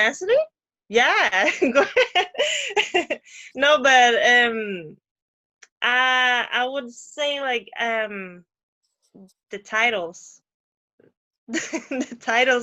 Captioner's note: laughter